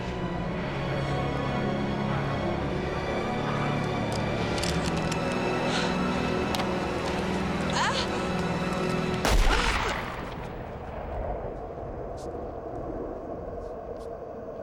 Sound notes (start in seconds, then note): 0.2 dramatic music; 7.7 Jill groans; 9.2 gun bangs